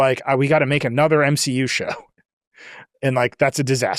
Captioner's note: laughs